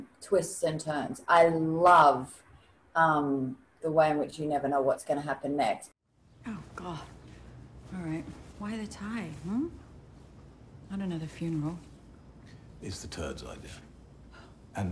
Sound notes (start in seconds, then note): none